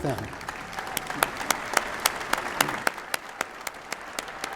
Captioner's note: applause